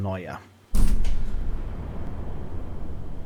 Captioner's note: thud!